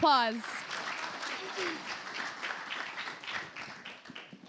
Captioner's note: applause